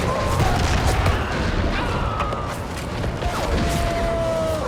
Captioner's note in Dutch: soldaten brullen; kanonnen vuren